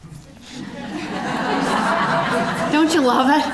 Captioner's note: audience laughing